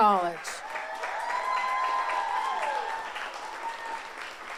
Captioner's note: audience applauds